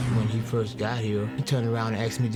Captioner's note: voiceover